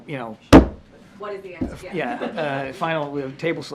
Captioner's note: laughter